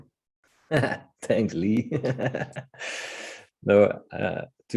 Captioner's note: chuckling